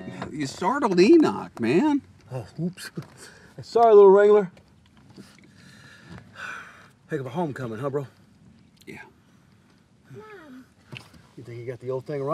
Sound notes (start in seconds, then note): 5.4 sighing; 10.1 child babbling